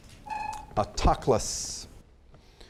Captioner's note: chimes